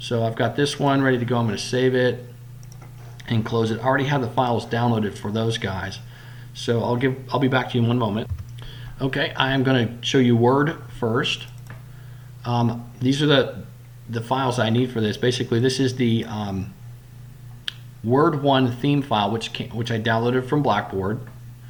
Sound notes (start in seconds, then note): 8.6 click